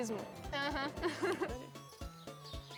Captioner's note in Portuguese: risos